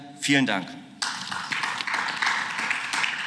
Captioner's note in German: Beifall